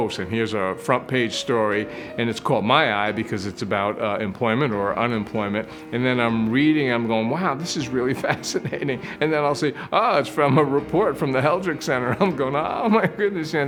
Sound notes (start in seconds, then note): 8.6 chuckle